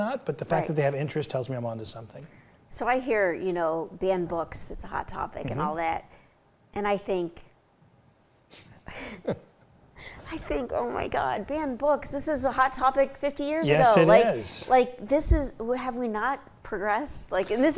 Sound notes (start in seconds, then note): 8.9 chuckles